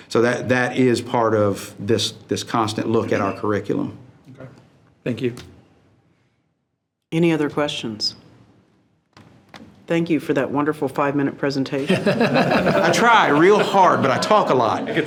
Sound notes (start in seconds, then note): 11.8 trustees laughing